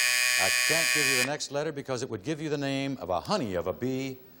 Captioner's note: buzzer